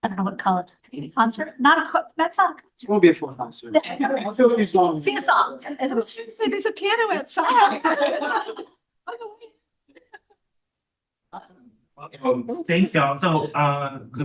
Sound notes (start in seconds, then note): 7.4 all laugh